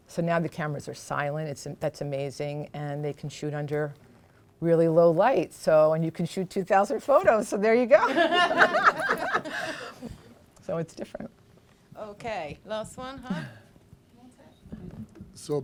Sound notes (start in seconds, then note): 8.0 laughter